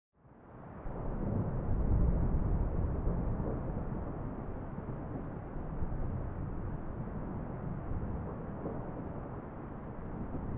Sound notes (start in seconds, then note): 1.0 thunder rumble